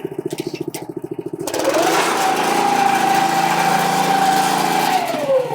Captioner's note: sod cutter roaring